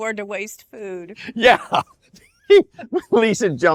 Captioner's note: laughs